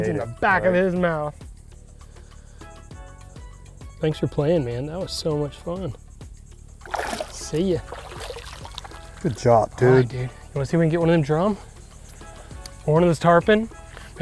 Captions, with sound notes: - He ate it. - It's in the back of his mouth. Thanks for playing, man, that was so much fun. (water splashing) See ya. (water splashing) - Good job, dude. - All right, dude, wanna see if we can get one of them drum? Or one of those tarpon?